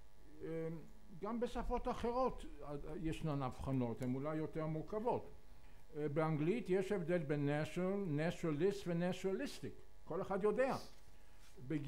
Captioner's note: אנגלית